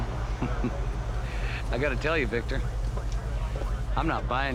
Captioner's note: chuckles